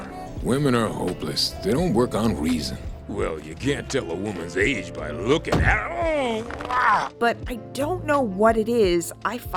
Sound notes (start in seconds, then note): 5.7 grunts in pain